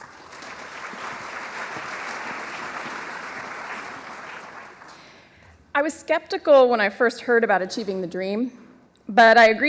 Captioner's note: applause